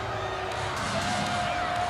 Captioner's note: crowd cheering